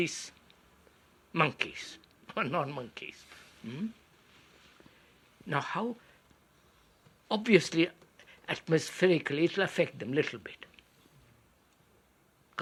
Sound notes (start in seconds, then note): 1.7 laughs